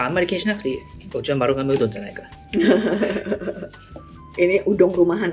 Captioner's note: laughs